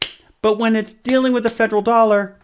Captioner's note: smacking hand